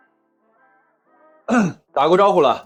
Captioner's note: cough